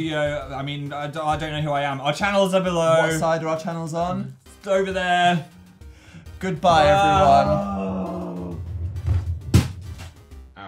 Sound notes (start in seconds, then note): 6.8 groans; 9.0 bang